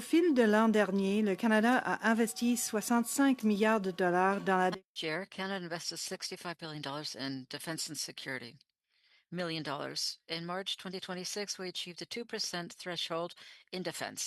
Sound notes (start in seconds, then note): 6.1 speaking French